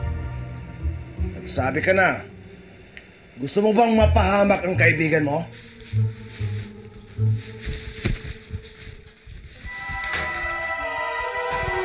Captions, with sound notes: Tell me now. Do you want your friend to get in trouble? [towel rustles] [humming]